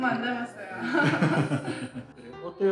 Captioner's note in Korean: 웃음